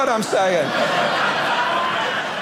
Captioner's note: audience laughing